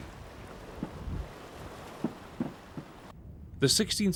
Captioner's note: rockets booming